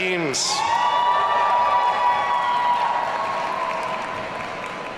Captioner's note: audience cheering